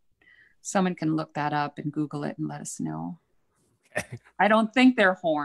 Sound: chuckles

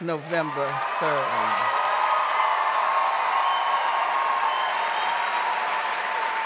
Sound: audience cheering and applauding

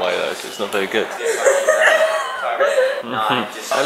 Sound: some laughter at little making some jokes in the background

